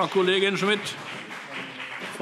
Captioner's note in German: Beifall BÜNDNIS 90/DIE GRÜNEN und CDU